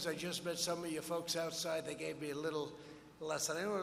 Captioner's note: none